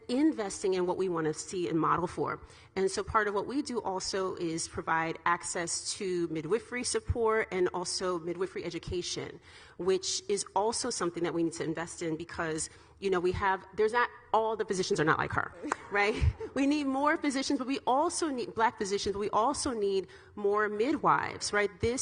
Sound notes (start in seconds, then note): 15.6 all ladies laughing; 15.7 clapping